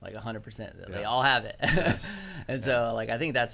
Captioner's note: laughs